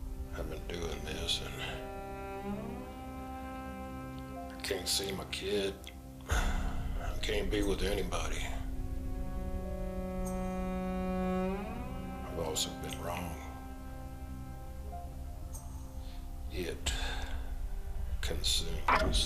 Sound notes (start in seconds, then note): 8.8 gentle melancholic music; 16.9 sighing